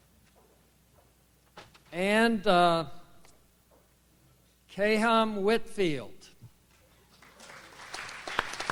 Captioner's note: audience applauds